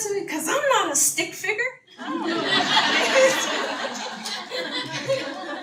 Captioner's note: audience laughter